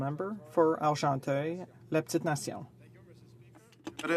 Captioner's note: speaking french